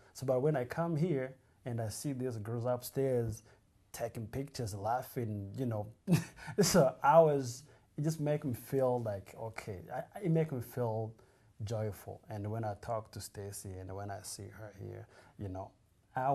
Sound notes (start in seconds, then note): 6.4 laughs